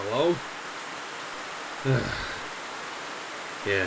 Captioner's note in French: Gordon soupire